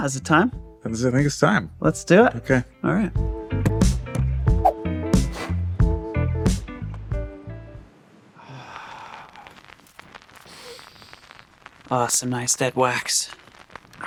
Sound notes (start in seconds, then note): 8.9 record static buzzing